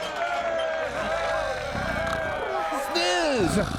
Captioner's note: crowd cheering; snoring